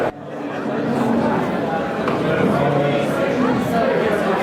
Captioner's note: crowd chatter overlapping